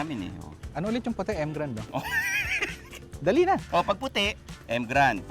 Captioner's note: laughs